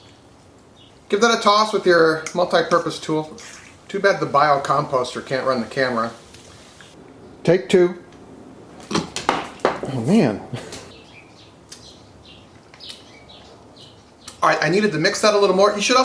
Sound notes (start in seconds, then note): 8.8 dog chomps at the air; 8.9 carrot thuds against the floor; 10.3 chuckles; 12.2 birds chirping